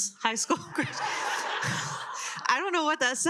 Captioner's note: attendees laugh